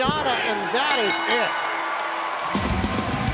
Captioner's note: bell; cheers & applause